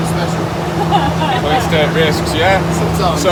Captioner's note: group laughs